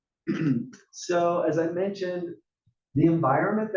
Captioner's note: cough